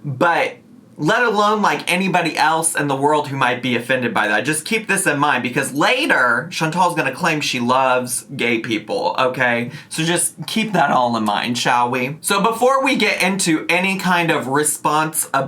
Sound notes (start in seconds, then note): none